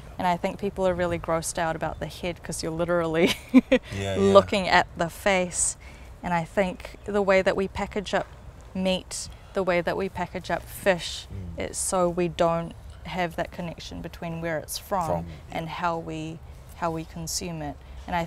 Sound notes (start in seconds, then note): 3.5 laughs